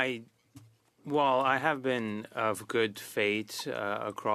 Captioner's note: speaking French